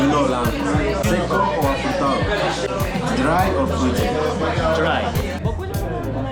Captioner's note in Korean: 스페인어